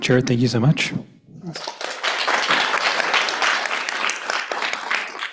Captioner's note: applause